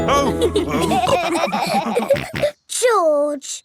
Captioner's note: all laughing